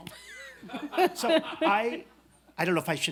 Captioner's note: laughs